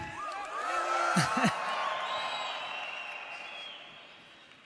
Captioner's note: crowd cheers